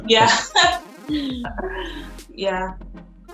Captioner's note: laughing